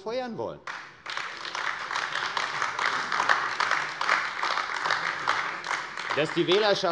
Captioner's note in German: Beifall AfD